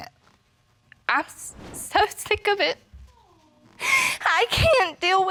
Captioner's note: voice breaking; sobbing